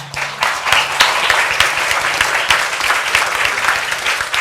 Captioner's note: audience applauding